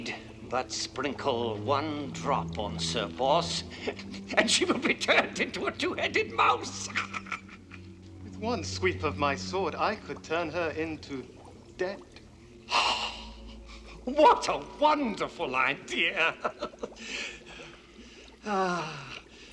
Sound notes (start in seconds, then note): 8.2 cackles